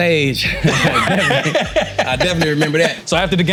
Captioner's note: laughing